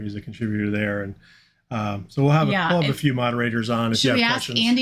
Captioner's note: none